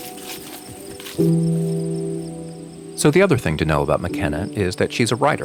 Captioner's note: leaves crunch